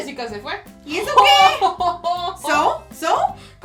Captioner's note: evil laugh